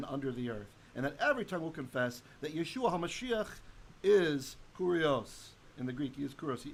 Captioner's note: Hebrew